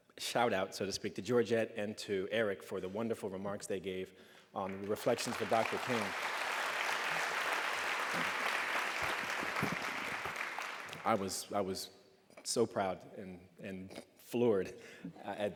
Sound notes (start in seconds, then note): 6.3 applause